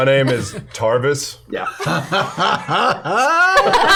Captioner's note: laughter